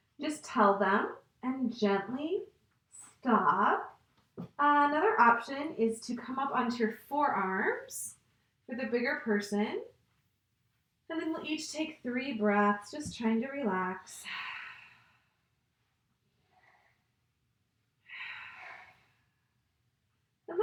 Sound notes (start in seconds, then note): 14.2 exhales; 18.1 exhales